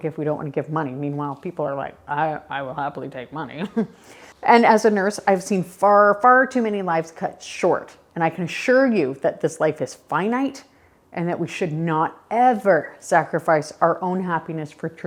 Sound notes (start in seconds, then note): 3.6 chuckles